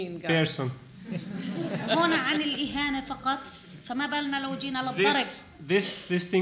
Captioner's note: laughter